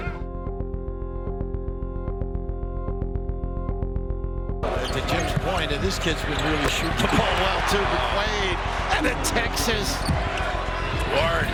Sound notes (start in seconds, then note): 2.7 electronic music; 5.9 scuffing